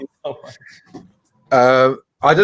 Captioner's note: laughing